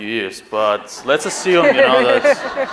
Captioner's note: laughing